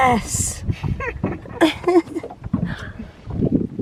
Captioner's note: both laughing